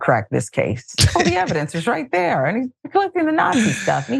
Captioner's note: laugh